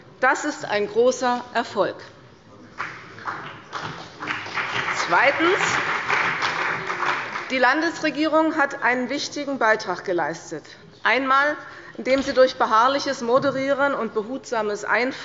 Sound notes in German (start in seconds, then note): 2.7 Beifall bei der CDU und dem BÜNDNIS 90/DIE GRÜNEN